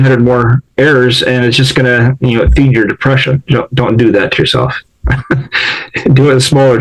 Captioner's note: laughs